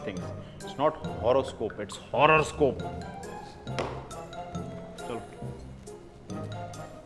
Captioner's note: bangs his tea mug on the counter & walks away